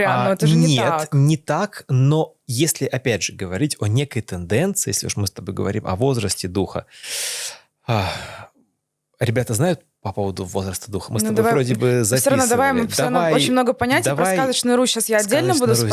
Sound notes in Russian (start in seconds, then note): 7.9 вздыхает; 7.9 тяжело вздыхает